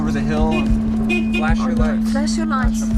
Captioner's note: horn honking